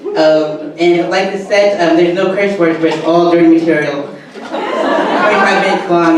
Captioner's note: audience laughter